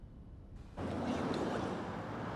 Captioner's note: whispering